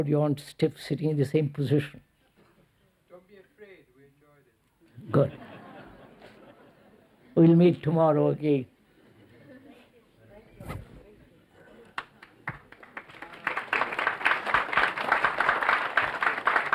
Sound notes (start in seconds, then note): 5.1 laughter; 11.9 clapping